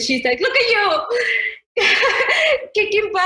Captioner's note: laughs